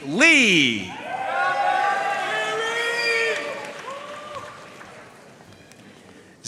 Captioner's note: audience cheering and applauding